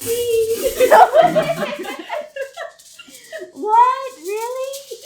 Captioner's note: everyone laughs